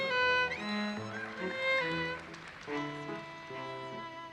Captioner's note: audience applauses